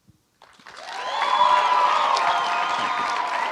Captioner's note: cheering; applause